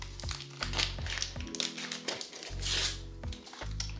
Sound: package tearing

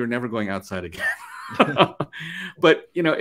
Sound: laughs

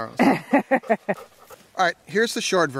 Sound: woman laughs

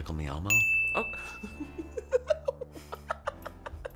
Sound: laughs

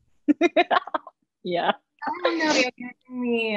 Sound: laughs

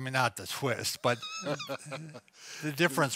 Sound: laughing

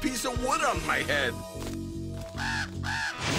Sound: cawing

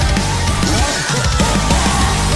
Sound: goofy ahh laugh

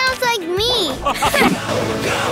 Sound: laughing

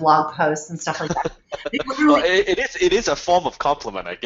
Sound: Dan laughing

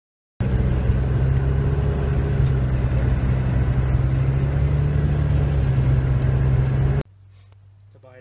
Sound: eating cheeseburger

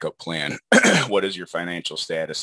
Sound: clears throat

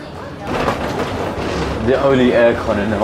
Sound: suitcase rolling

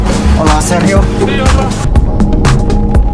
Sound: speaking in foreign language; bright upbeat music

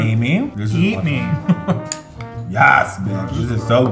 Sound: chuckles

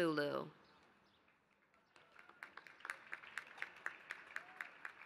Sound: applause

